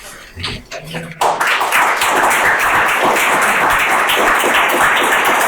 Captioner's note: audience applauding